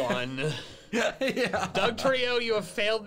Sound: laughs

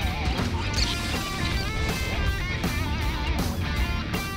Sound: seagulls honking

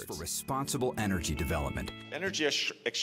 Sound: voiceover

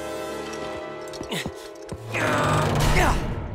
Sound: grunting

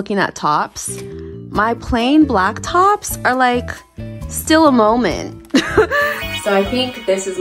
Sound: laughs

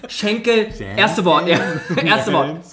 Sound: laughs

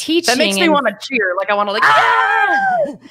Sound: both cheering

